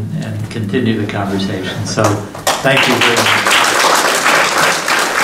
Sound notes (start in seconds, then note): 2.3 applauding